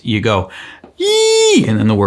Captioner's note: shrieking